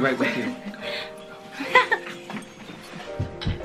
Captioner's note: nervous giggle